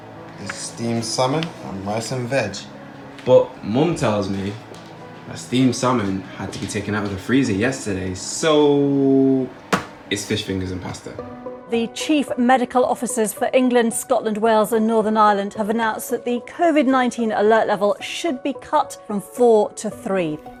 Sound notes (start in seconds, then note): 11.5 rolling news audio